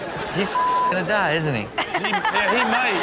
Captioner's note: beep; Chanel and audience laughing; audience laughing